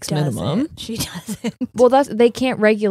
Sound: laughs

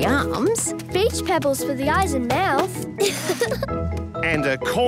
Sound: laughing

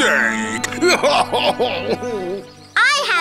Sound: sobbing

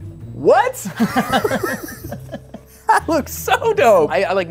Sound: both laugh

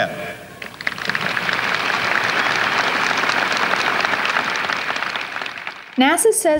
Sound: applause

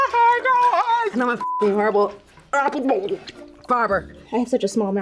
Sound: laughs; gurgles

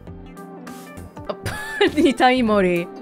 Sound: chuckles

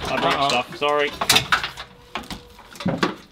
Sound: rattling

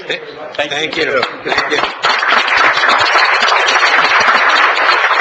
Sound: audience clapping

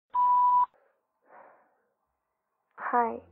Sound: beep tone

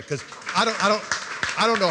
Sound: applause

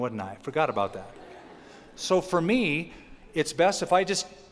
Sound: laughter

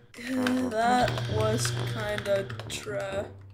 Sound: buzzer

